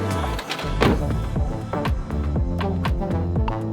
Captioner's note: laughs; smacks lips; car door bangs